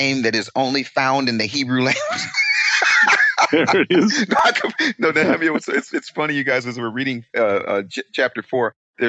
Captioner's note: laughing